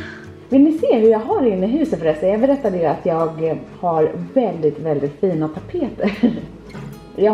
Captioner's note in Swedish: skratt